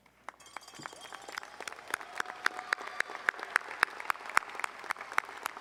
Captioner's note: audience cheering and applauding